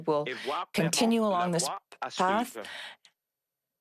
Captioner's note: speaking French